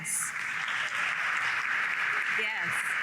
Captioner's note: applause